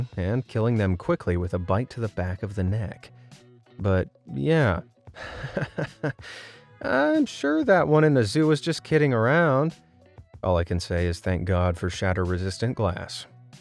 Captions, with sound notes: and killing them quickly with a bite to the back of the neck. But yeah… (nervous laughter) I’m sure that one in the zoo was just kidding around! All I can say is thank God for shatter resistant glass!